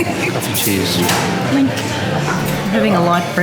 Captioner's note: clink